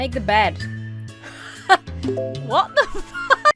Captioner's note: laughs